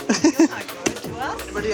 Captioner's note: laughs